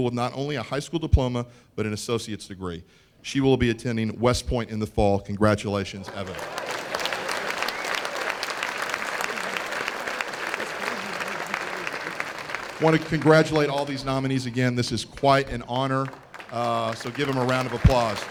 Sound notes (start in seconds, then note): 7.6 applause